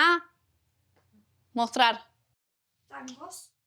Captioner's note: in Spanish